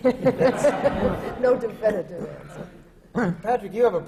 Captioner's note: laughter